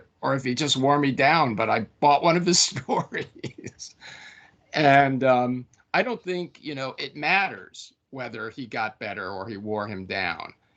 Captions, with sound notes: if he just wore me down, but I bought one of his stories.” [LAUGHING] And, I don’t think, you know, it matters whether he got better or he wore him down.